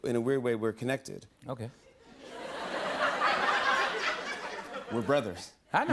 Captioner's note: laughter